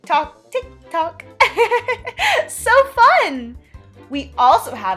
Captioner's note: laughs